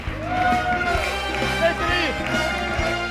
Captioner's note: audience cheering and applauding